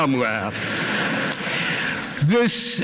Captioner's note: laughter